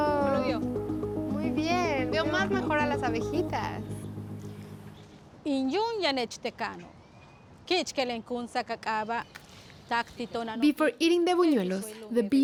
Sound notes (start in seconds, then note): 0.2 speaks Spanish; 5.0 speaking Spanish